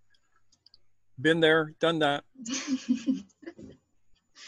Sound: laughs

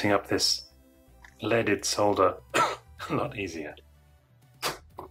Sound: cough

